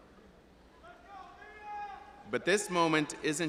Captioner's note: audience member yelling indistinctly